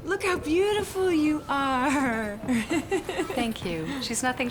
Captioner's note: laughing